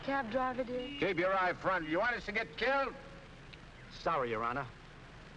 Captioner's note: none